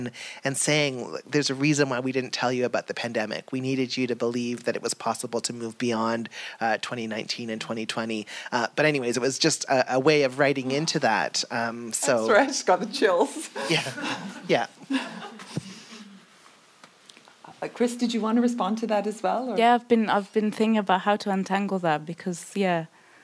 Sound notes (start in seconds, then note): 14.9 audience laughs